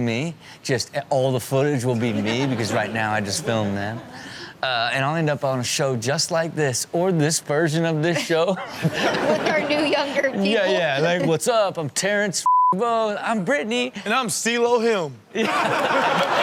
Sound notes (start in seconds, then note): 12.4 beep